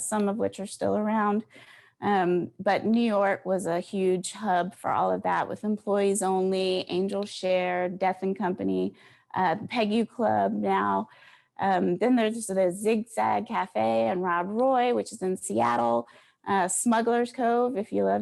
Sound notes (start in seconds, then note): none